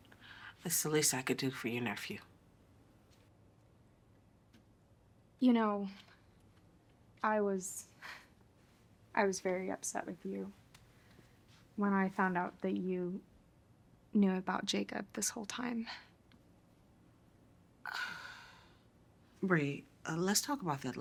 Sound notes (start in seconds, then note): 17.8 Colleen sighs